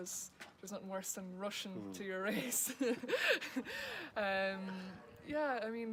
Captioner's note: laughs